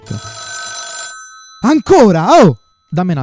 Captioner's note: phone rings